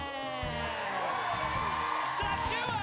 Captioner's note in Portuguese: audience cheering